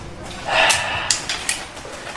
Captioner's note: sighs